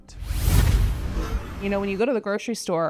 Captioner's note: scene swooshing